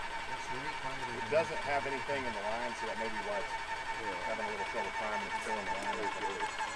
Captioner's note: low talking